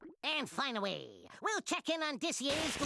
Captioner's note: none